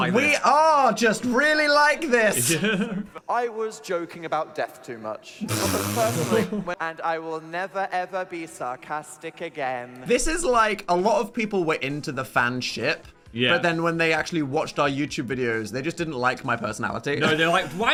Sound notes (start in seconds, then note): 2.4 chuckling; 5.5 laughing